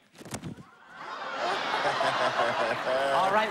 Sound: laughter

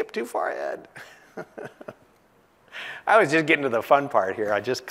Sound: laugh

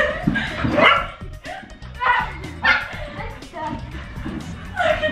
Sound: Logan barks

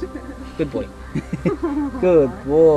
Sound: laugh

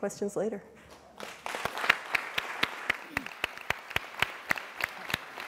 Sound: applause

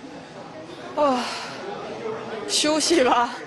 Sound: sigh

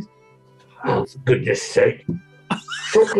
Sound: muttering, gruffly; gruffly; laughing

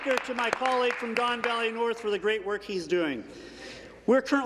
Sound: applause

